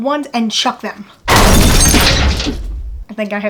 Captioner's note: loud crashing